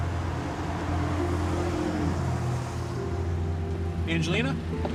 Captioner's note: car engine rumbles